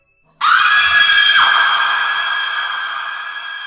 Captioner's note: woman screaming